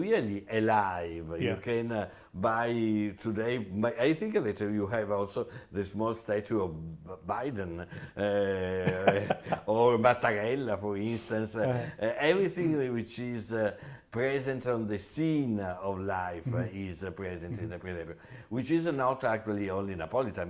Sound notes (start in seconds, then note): 8.0 laughs